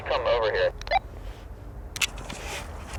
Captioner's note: walkie-talkie blips